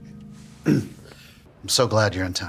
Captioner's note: Bobby clears throat